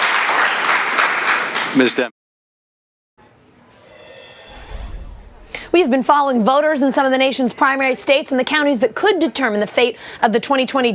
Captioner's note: applause